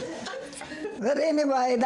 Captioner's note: audience laughter